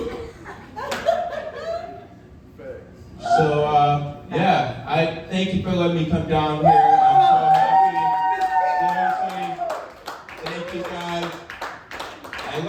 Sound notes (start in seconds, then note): 0.1 audience laughing; 6.6 audience cheering; 7.4 audience clapping